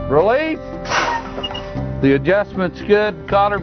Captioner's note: brake noise